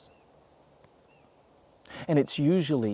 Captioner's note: birds chirping